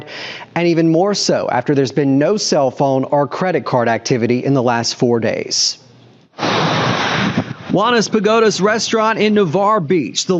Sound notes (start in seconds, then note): 6.4 traffic whirring